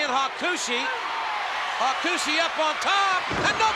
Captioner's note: spectators cheering